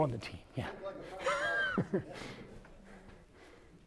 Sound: laughter

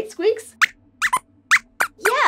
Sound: squeaks squeaks

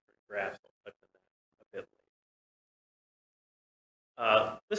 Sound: audio cuts out

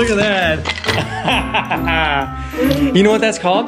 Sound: laughs

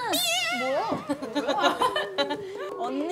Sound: laughing

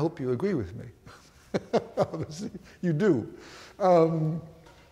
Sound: laughs

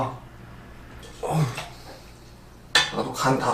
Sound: sigh

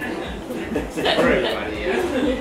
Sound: laughs

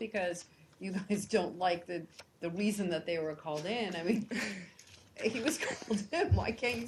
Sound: laughter

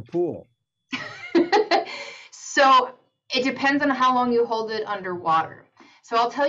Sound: laughs

